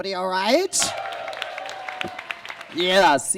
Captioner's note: audience claps and cheers